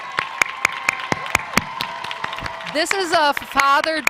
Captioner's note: cheers and Applause